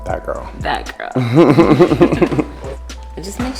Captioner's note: both laugh